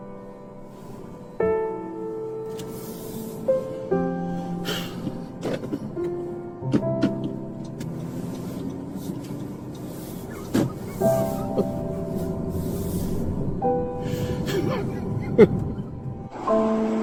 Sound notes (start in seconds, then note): 4.6 Roger sighs; 12.0 Roger crying